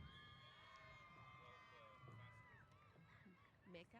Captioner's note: cheers